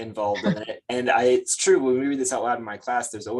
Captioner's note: chuckles